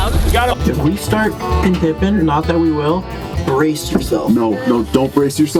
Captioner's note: horn honks